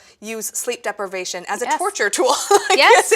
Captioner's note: laughs